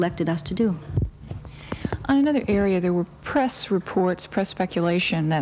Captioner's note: pat